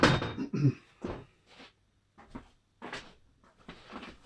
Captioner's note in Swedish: harklar sig